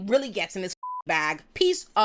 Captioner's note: beep